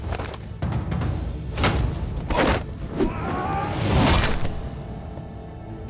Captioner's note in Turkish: Savaş sesleri